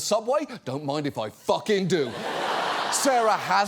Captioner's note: studio audience laughs